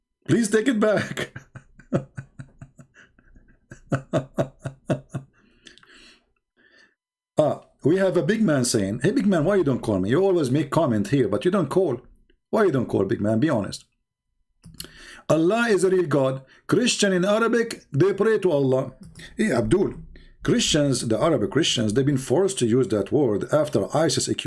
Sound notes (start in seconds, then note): 3.6 Ketawa